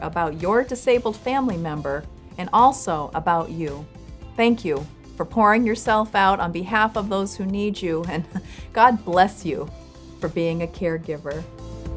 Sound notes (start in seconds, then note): 8.1 chuckles